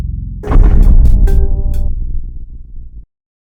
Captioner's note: dramatic thud